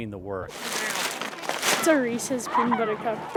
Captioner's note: trash bag crumpling